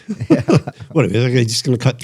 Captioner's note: laughter